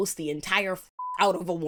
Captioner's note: beep